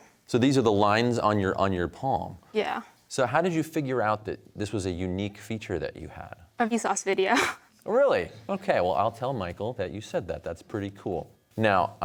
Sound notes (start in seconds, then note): 7.3 laughs